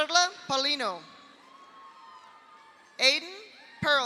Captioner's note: audience cheers; audience applauds